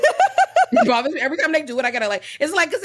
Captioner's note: laughing